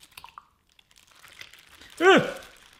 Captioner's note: rustling